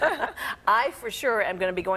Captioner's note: laughter